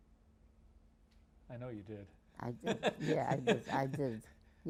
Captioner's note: laughing